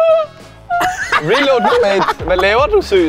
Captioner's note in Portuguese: Risada